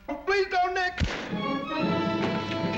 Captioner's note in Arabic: طلقة نارية